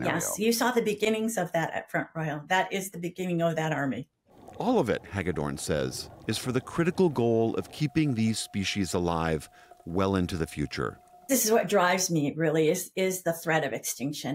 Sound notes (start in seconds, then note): 5.0 voice-over